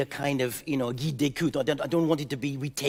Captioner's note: speaking in French